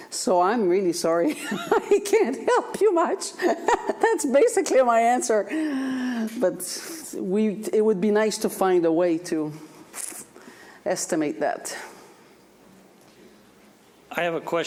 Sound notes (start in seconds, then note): 3.4 laughs